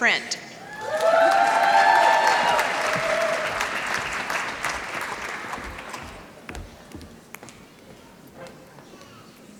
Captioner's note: applause